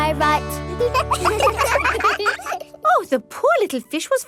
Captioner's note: children laugh